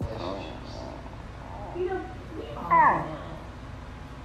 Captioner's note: corgi growling